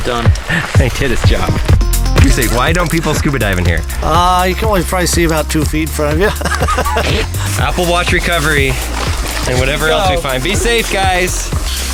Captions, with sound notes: - Done. - He did his job. Why don't people scuba dive in here? - You can only probably see about two feet in front of you. (laughs) - Apple Watch recovery! And whatever else we find, be safe guys!